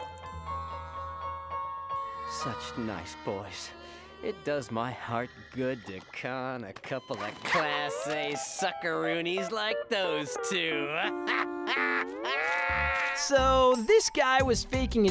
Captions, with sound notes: Such nice boys, it does my heart good to con a couple of Class A suckeroonies like those two! [laughing] So this guy was faking his injury